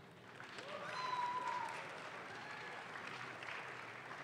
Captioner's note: audience claps